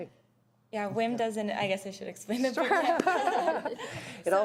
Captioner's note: laughter